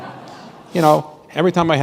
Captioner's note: laughter